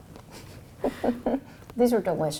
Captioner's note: chuckles